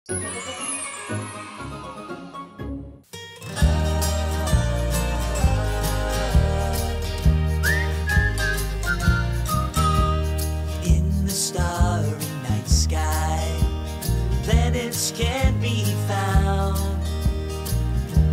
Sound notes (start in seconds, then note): 0.4 kids cheering; 3.7 soft music; 7.5 whistling